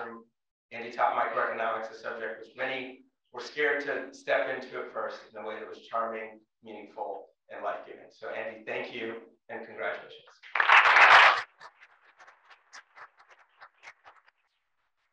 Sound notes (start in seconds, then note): 10.4 applause